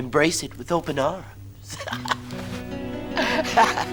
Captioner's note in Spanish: riendo; música acústica suave